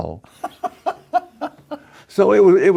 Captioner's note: laughing